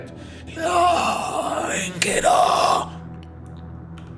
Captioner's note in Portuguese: Grunhido